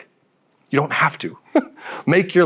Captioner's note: chuckles